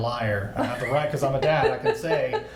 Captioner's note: laughs